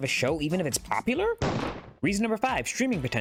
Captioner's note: gunshot